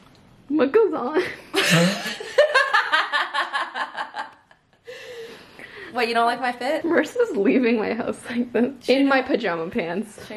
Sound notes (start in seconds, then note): 1.6 laughing